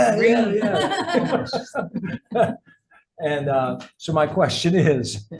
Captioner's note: people laugh